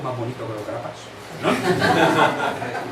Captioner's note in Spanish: risas